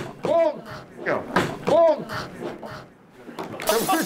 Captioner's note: thudding